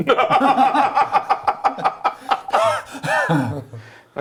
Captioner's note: laughing